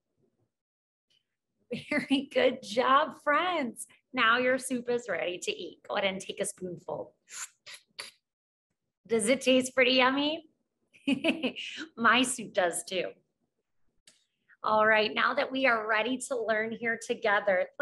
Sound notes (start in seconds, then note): 7.5 slurps; 11.0 laughs